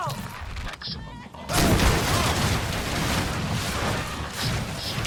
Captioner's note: explosion